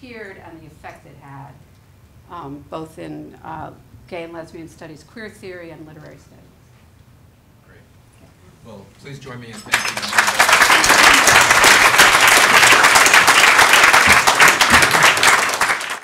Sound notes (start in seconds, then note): 9.5 applause